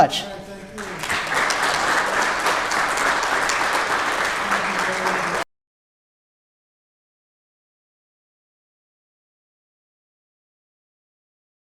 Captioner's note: audience applause